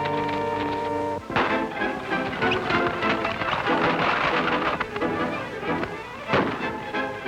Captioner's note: suspenseful music; gun firing; guns firing